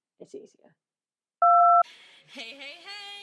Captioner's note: beep